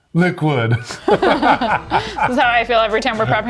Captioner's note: laugh